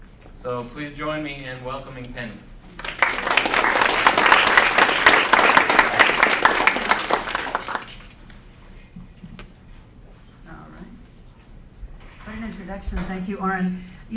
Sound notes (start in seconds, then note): 2.7 applause